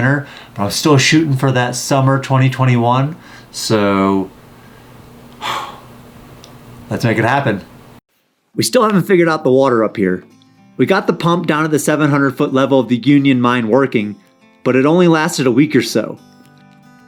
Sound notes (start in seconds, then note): 5.4 sighs loudly; 10.5 gentle music